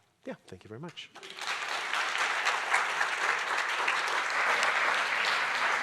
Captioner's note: audience applauding